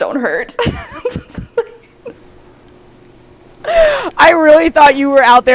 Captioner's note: both laughing